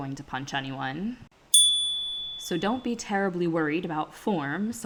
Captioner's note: chime